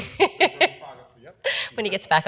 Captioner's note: laughs